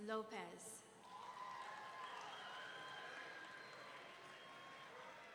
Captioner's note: audience cheering